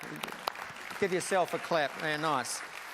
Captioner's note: applause